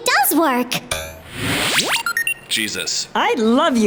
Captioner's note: electronic noises